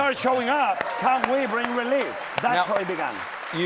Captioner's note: applause